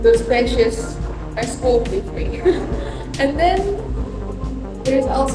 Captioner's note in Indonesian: tertawa